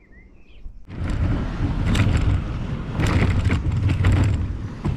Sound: car motor running slowly

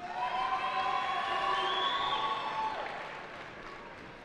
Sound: cheering

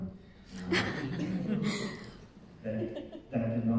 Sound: audience laughing

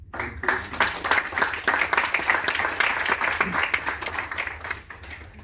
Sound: claps

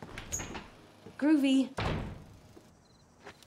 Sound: door Opens, Closes

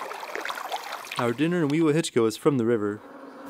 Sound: splashing

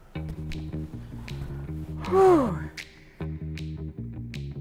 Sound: tense pop music; dad sighs

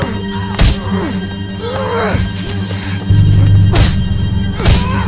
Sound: grunting

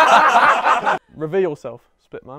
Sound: people laughing

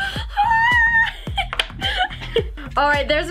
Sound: laughs

